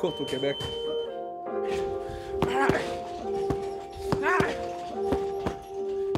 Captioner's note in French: grognements d'effort